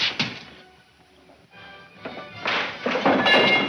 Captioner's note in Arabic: تكسير